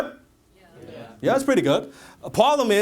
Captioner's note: audience says yes